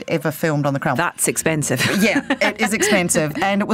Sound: laughs

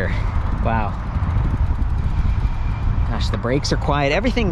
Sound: bike rattling

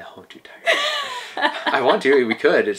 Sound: laughing

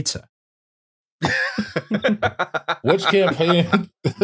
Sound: laughter

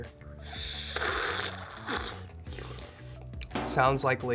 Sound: slurps

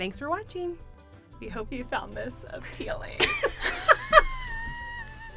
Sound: laughs

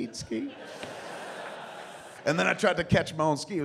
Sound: laughter

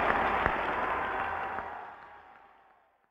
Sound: crowd cheers

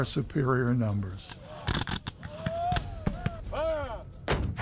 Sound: gunshots blasting

